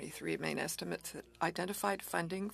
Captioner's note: speaking French